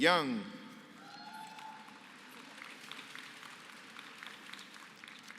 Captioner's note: applause